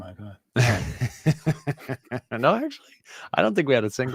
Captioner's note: laughs